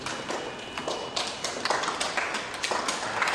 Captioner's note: applause